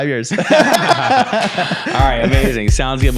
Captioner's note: laugh